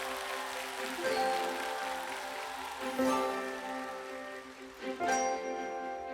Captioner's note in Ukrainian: оплески